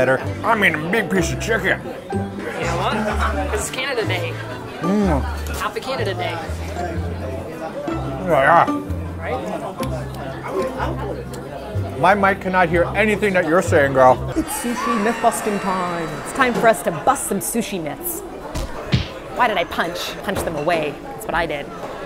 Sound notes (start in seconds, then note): 5.1 eating sounds